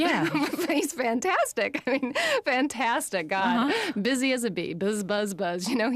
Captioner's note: laughing